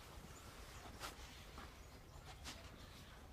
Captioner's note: birds chirping